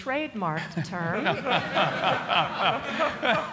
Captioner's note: laughter